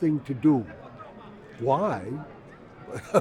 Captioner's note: voiceover; laughs